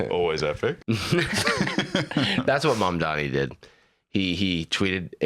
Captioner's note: both laughing